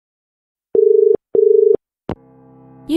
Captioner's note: dial tone